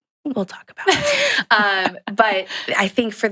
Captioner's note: chuckles